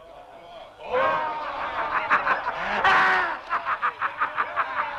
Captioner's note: chieftains laughing